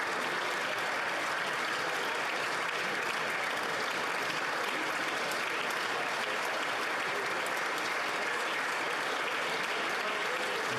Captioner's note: applause